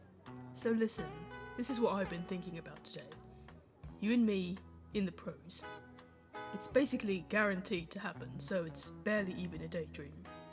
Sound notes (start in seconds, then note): none